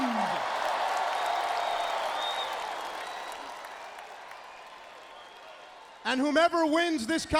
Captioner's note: crowd cheering